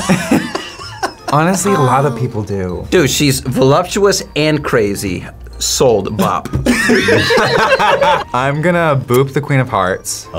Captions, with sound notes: (React laughs) - (laughs) Honestly, a lot of people do. - Dude, she's voluptuous and crazy. Sold, bop. (group laughs) - I'm gonna boop the Queen of Hearts.